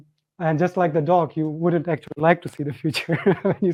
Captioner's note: chuckles